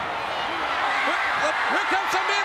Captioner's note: audience cheers